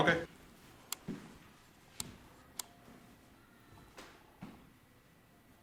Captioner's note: camera sounds